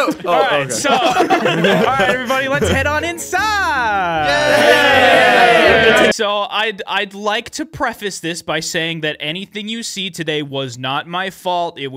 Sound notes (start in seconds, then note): 3.9 cheering